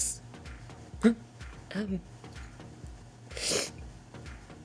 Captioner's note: sniffs